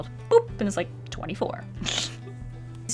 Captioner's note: short laugh